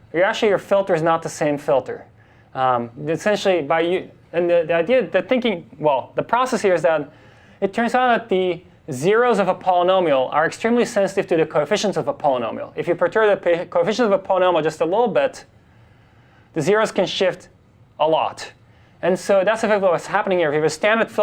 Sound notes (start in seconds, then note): none